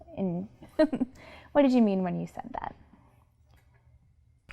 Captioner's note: laughs